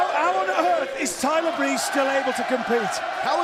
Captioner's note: fans chanting